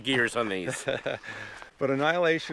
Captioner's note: laughing